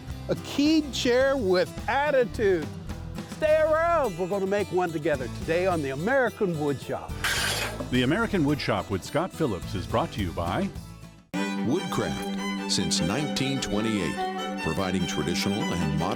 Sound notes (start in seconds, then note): 7.1 scrapping; 11.4 classical music